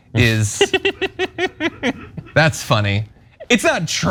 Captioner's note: laugh